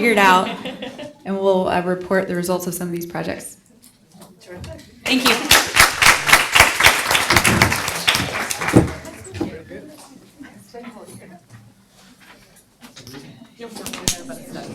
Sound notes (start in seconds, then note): 5.1 audience applauds; 8.7 background talking